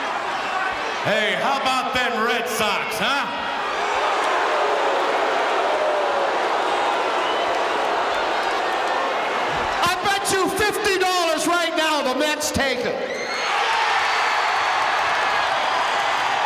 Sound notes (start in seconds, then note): 3.4 audience booing; 13.0 audience cheering